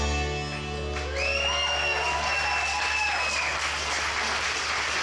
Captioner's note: audience cheering